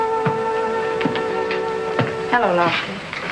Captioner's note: shoes stomping